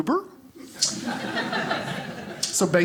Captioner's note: audience laughing